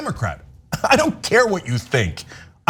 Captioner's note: laugh